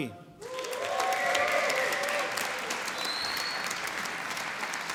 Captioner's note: applause and cheering